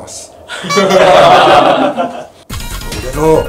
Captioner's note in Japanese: 笑い